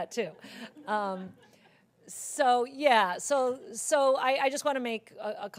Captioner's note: laugh